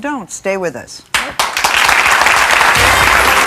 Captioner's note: audience clapping; jazzy music